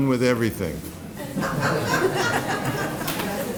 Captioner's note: laughter